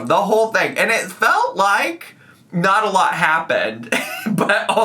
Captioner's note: laughs